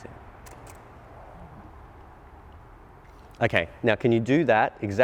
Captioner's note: clicking